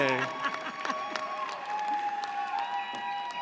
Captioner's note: cheers and applause